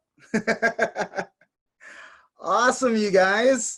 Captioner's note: laughing